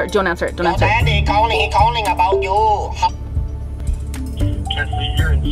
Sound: ringtone

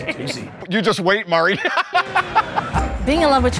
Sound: laughs

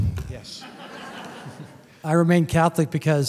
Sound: laughter

